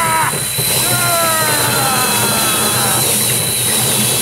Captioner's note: yelling; groaning; tenon cutter whirring